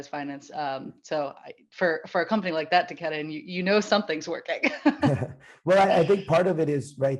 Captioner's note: laughs